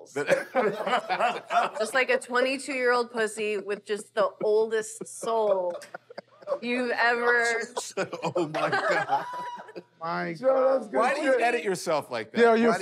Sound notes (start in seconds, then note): 0.2 laughter; 9.2 shrieks